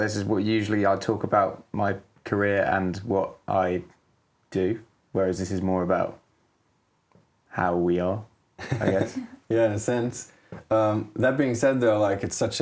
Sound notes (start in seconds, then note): 8.6 giggles